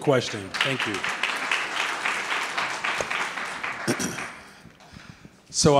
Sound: audience clapping

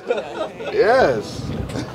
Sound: laughing

